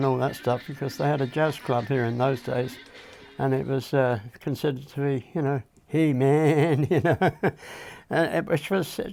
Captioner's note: laughs